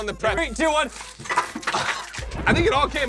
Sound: candy scattering

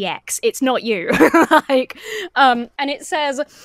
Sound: laughs

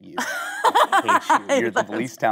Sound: Kate laughing

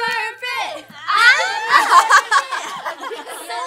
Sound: laughing

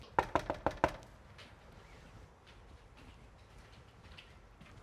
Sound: door knocking

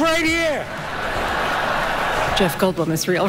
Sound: laughter

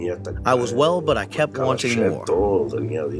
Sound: through translator

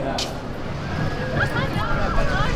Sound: crowds; emma laughing

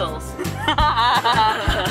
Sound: all: laughs

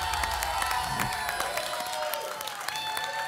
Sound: whoosh; applause and cheering

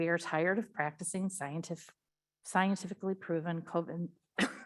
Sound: coughs

